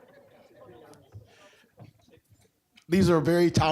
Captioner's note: audience laughing